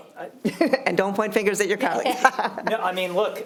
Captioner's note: chuckles